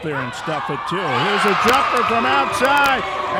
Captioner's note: cheering